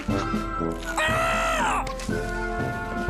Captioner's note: screams